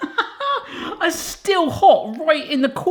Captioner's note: laughing